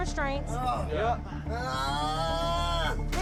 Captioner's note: groaning